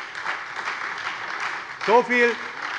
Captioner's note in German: Beifall bei der SPD und dem BÜNDNIS 90/DIE GRÜNEN